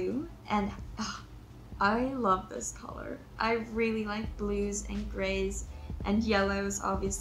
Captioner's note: sighs